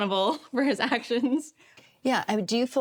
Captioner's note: chuckles